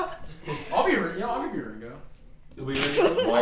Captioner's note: laughs